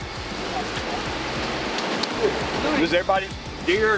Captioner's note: machines whirring